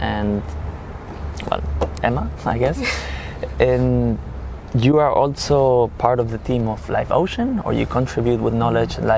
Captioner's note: risas